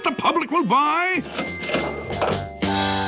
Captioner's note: CASH REGlSTER RINGS